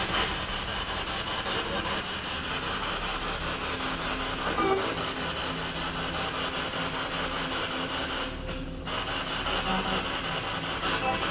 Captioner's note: radio noise from the spirit box